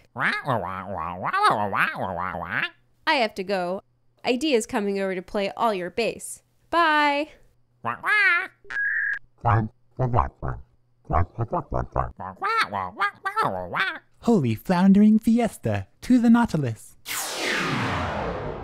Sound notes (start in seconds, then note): 1.7 squawk; 7.9 squawk; 7.9 authoritative squawking; 12.2 acknowledging squawk